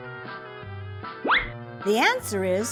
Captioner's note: whistle